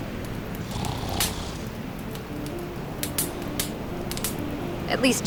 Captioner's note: Jack snoring